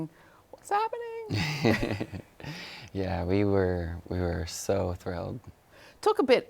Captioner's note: chuckles